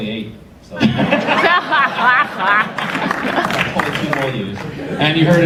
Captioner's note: audience laughter